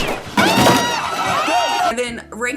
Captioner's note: crashing and cat howling; everyone screams